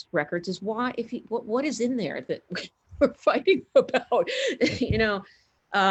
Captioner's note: laughs